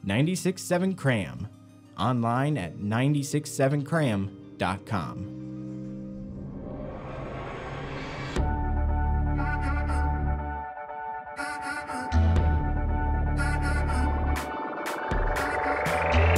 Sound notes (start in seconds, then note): 6.0 whooshing; 8.4 upbeat music